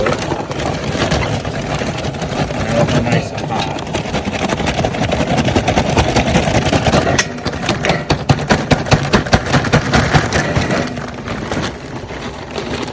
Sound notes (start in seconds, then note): 0.0 packet crackling; 1.8 charcoal thudding; 4.2 metal clanking